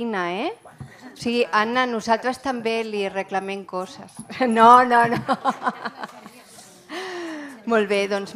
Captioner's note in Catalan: riure; riures